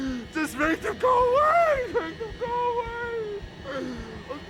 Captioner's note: continues Sobbing